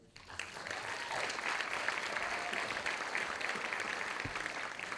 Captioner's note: audience applauding